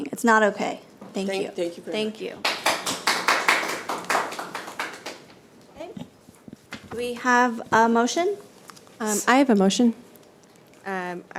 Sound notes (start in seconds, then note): 2.4 people clapping